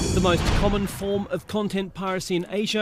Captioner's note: voice-over